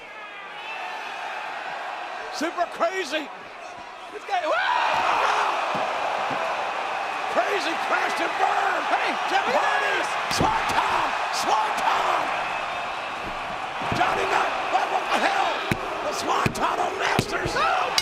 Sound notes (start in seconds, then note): 1.0 audience cheering